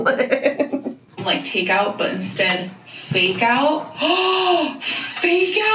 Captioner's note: laughs; gasps